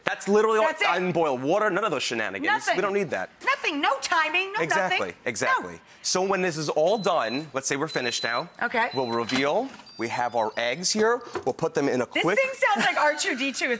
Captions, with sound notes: That's literally- That's it! I didn't boil water, none of those shenanigans. Nothing! You don't that. Nothing! No timing, no nothing! Exactly, exactly. So when this is all done, (timer beeps) let's say we're all finished now. Okay. We'll reveal. We have our eggs here, we'll put them in a qu- This thing sounds like R2-D2